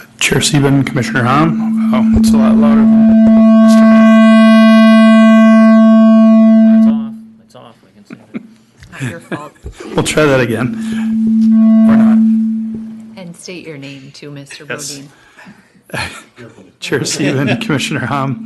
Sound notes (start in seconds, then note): 8.8 laughter; 15.8 laughter and clears throat